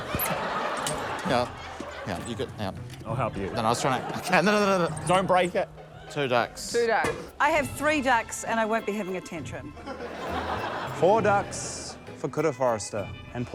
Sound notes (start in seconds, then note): 9.7 laughter